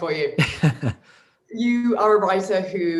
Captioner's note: laughs